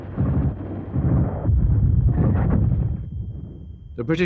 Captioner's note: rapid gunfire